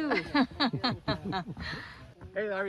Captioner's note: laughter